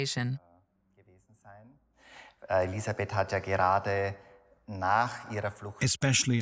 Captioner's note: speaks in foreign language